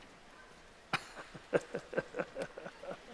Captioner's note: laughing